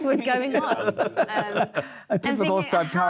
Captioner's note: panelists laughing